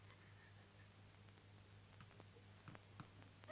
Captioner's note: crying